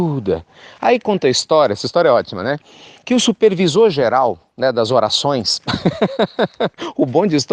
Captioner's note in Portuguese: risos